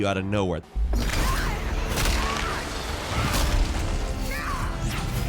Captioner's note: blows landing